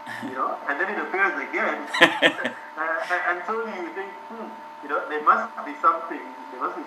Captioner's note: laughs